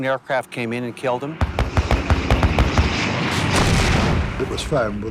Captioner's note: gunshots